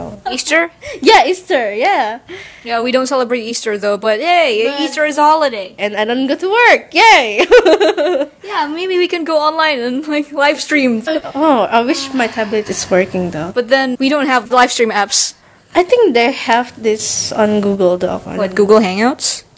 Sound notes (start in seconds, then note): 7.5 laughs